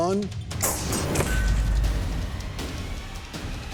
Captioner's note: whoosh, clang